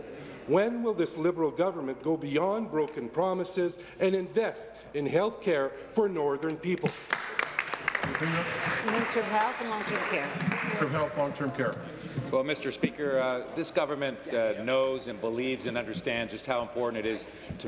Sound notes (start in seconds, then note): 10.8 applause